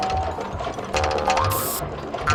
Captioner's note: aerosol sprays